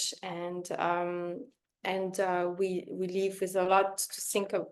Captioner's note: none